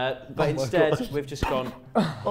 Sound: laughs

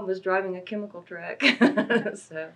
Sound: laughs

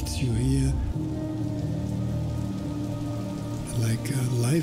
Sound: rain landing on water

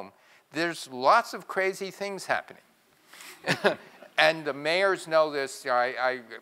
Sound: laugh

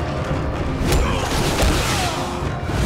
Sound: grunting

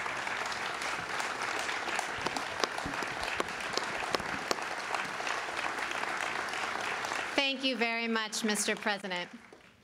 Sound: applause

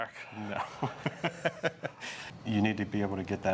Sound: laughs

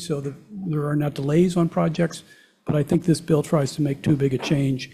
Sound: none

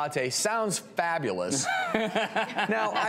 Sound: laughs

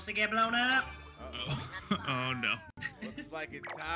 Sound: laugh

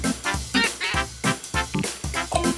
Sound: Pato quacks

